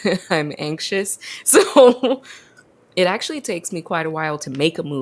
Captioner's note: laughs